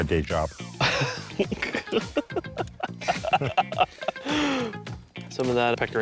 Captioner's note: laughing